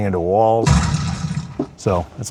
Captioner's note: person thuds